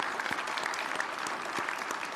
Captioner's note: applause